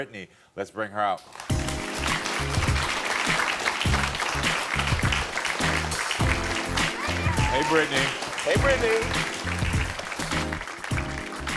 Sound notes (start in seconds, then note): 1.2 audience applauding; 1.4 upbeat music